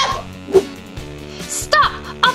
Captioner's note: air swhooshes